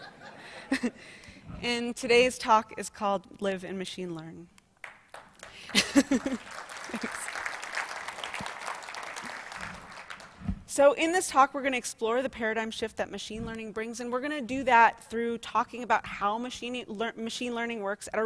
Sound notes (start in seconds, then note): 11.2 applause